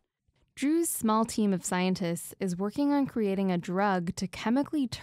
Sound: voice-over

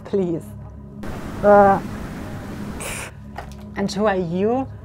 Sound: groaning

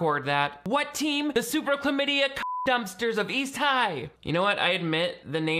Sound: beep

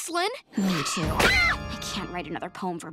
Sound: both scream

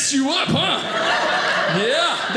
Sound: audience laughing

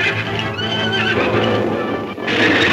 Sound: horses screaming drowns out speech; cougar roars; hooves thundering

